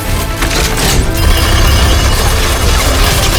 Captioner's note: rapid gunshots